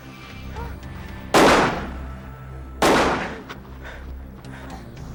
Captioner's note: gunshots booming